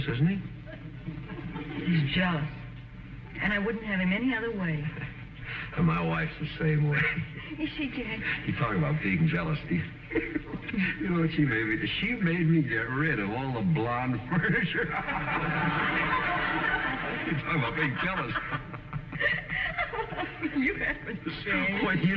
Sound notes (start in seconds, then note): 9.6 chuckles; 16.6 audience laughing; 21.1 chuckles